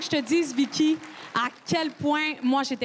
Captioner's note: crowd cheering and applauding